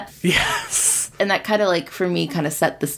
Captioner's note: laughs